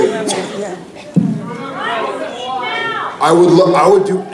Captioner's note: yelling